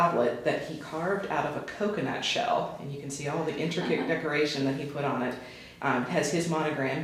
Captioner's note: chuckles